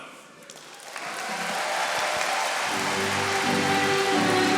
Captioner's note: audience applauding